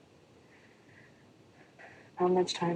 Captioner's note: sighs